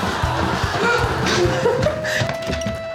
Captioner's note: laughter